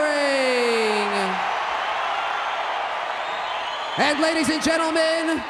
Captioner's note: crowd cheers